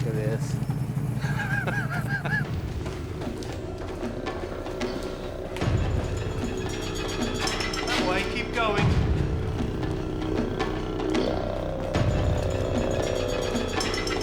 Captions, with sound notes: Oh, man, look at this. (laughs) That way. Keep going.